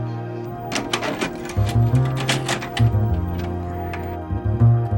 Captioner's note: bright dramatic music; VHS clanging